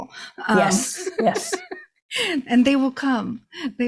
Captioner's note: laughs